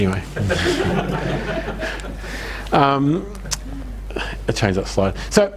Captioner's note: audience laughs